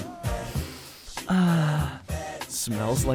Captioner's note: sniffs self